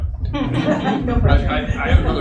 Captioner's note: audience laughing